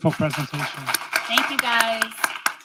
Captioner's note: audience applauding